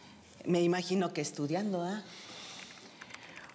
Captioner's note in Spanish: tecleo